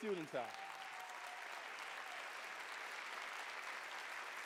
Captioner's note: cheers, applause